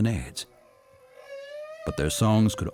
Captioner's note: whale singing